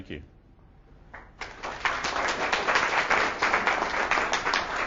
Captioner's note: audience clapping